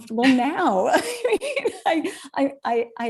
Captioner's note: both laughing